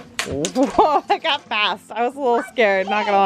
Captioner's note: laughs